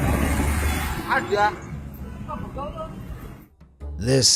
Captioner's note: passersby speaking in foreign language